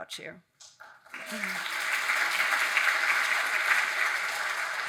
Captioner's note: audience applauding